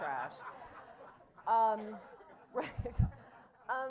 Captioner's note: laughter